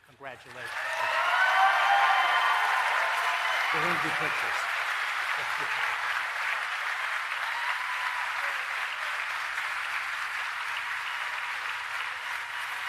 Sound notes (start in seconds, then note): 1.8 applause